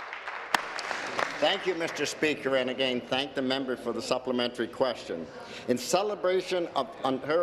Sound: applause

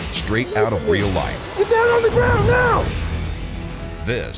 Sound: voiceover

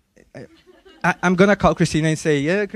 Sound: students laughing

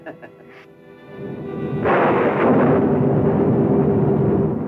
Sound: chuckling; thunder crashing

